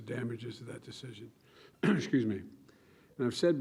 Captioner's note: clears throat